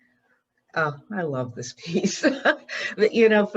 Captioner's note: laughs